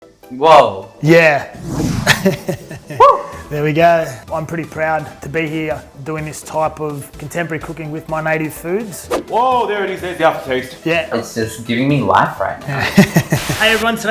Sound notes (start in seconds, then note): 2.0 chuckles